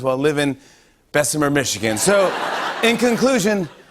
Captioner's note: laughter